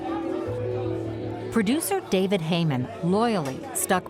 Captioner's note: people chattering